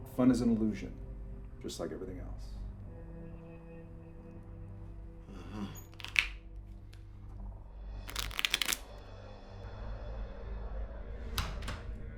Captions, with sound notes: - Fun is an illusion just like everything else. - Uh-huh. (poker cards softly riffling)